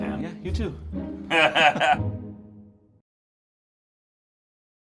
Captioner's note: laughing